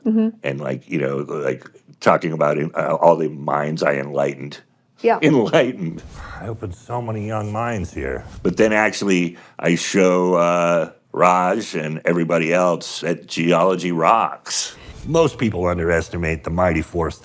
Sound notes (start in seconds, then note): 4.9 chuckles